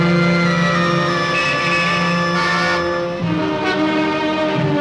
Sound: horn Honking

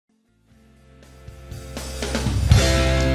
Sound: no Speech

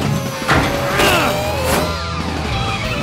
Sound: grunting

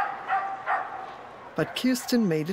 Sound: dog barking

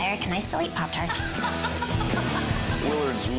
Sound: laughs

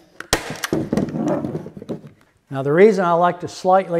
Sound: nail gun shooting

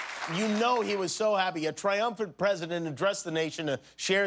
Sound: applause

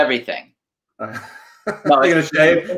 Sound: laughs

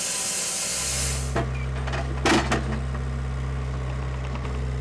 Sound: forklift engine roaring

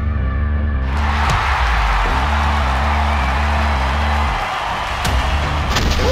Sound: crowd cheering

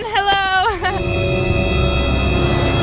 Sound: chuckles softly

